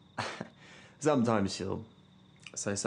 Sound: laughs

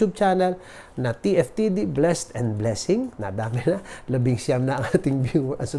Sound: chuckles

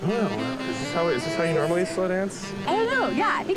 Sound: laughing

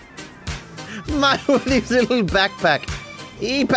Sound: laughing

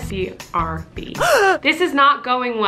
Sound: gasps

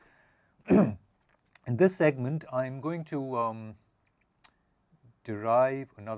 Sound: cough

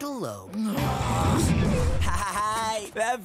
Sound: groaning

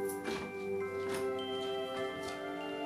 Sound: door opens

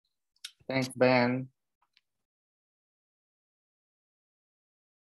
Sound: silence

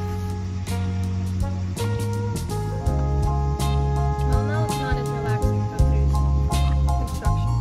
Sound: construction noises start

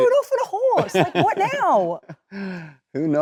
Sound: Cillian laughing

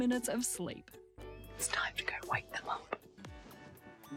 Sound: whispering

